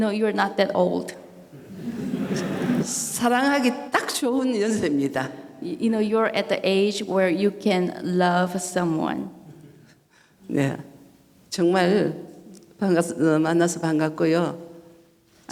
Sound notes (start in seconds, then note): 0.0 speaking foreign language; 1.6 audience laughing; 3.6 speaking foreign language; 10.6 speaking foreign language